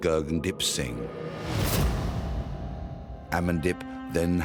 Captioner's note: intense whoosh